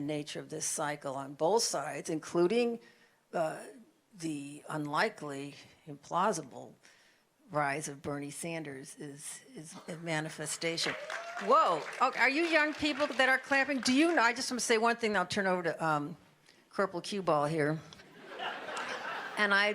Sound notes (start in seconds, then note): 10.8 applause